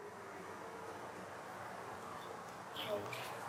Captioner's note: howling & traffic noise